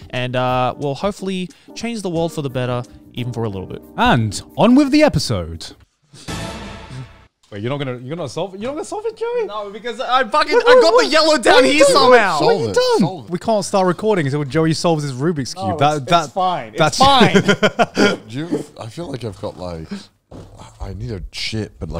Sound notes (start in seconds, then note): 17.0 laughing